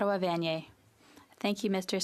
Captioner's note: speaking French